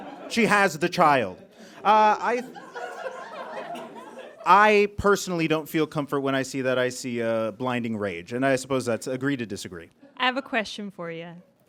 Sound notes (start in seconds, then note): 2.6 audience giggles